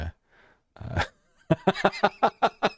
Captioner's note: laughing